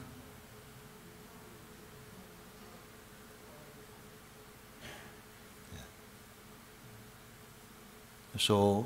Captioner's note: Φωνές στη σάνγκα